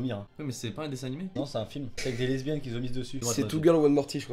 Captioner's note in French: rire legers